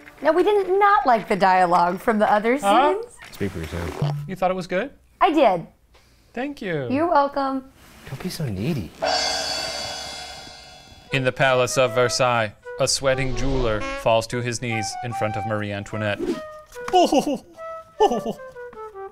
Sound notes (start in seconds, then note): 9.0 gong crashes; 17.9 sobs